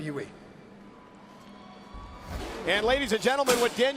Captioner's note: crowd cheering